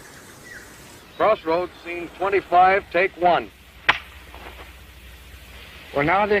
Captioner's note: slap!